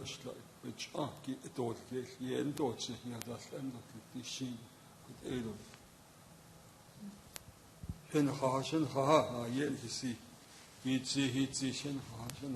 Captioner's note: speaking in native language